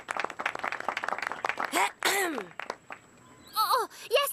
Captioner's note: clears throat